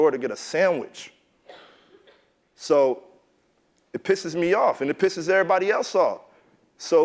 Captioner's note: cough